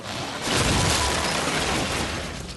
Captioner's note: crash